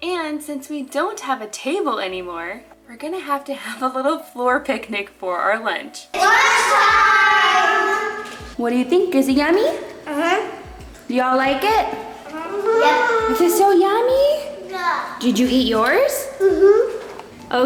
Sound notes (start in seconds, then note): 12.2 kids mumbling